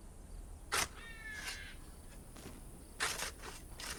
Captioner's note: shovels scraping